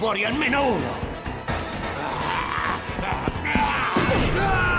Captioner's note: growling; screaming